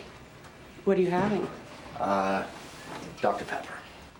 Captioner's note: fridge door clatters open